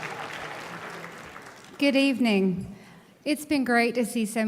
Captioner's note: applauding